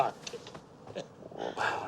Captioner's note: chuckles